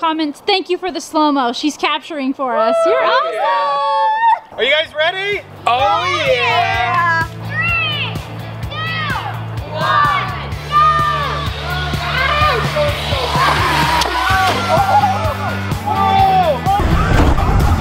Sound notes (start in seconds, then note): 2.5 group cheers; 10.1 upbeat, rhythmic music; 10.8 engine whining; 13.5 cheering